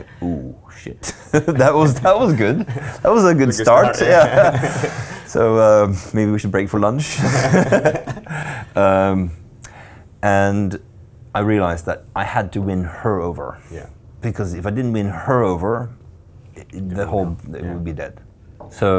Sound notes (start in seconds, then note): 1.0 laughing; 3.5 laughs; 7.1 all laughing loudly